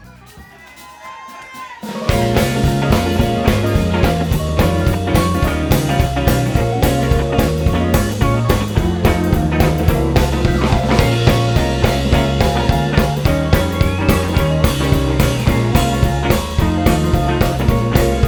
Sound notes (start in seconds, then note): 0.9 crowd cheering; 3.1 upbeat music